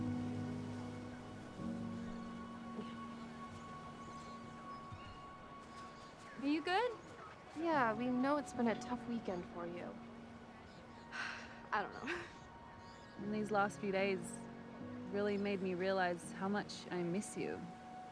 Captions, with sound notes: Yeah. Are you good? Yeah. We know it's been a tough weekend for you. [sighs] I don't know. And these last few days really made me realize how much I miss you.